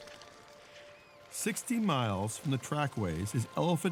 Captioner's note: birds flapping wings, squawking